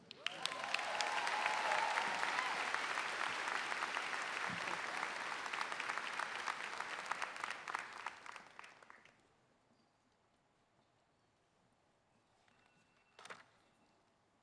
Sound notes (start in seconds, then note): 0.0 applause; 2.9 cheers and applause